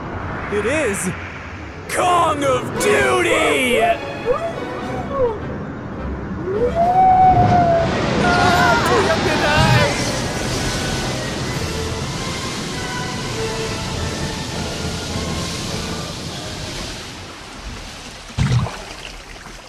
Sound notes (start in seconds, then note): 5.6 roaring; 10.1 screaming; 10.6 waves crashing